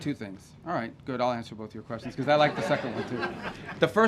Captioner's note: laughter